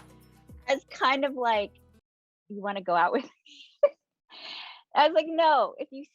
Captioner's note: chuckling